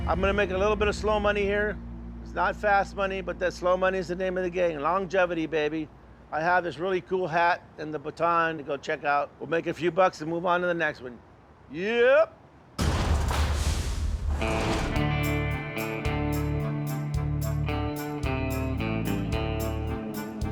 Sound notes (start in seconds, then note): 12.8 echoing slam; 14.9 mellow music